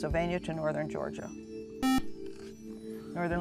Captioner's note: buzzer